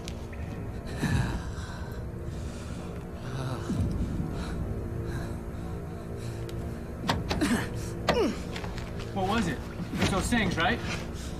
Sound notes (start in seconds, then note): 0.8 Jake sighs nervously; 6.7 banging; 6.7 moaning